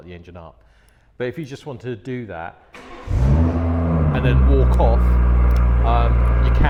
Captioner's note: engine starts